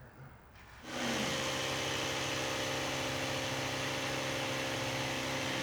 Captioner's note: compressor whirring